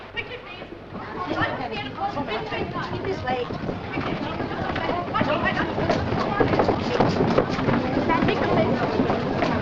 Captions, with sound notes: Quickly, please. This way. (Commotion)